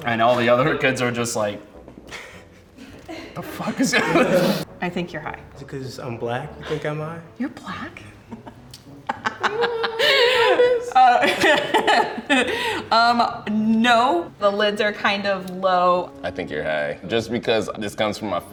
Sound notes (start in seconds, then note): 8.2 laughs